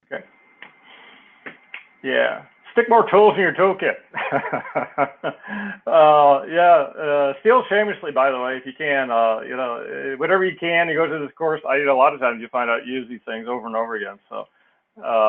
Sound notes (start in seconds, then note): 4.1 laugh